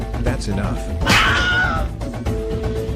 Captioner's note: Wilhelm Scream